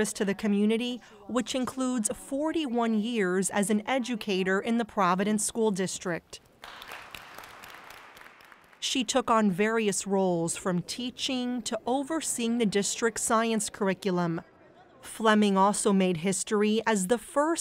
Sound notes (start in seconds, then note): 6.6 audience applauding